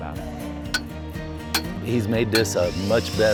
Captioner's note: hammering metal